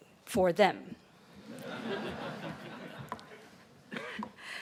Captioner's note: laughing